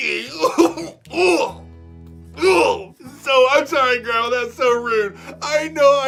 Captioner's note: gagging